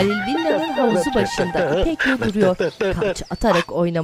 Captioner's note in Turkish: Şarkı mırıldanma sesi